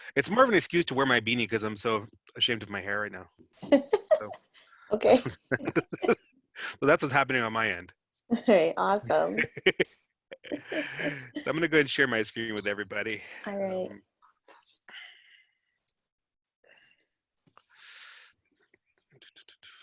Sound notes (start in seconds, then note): 4.9 laughs; 9.0 laughs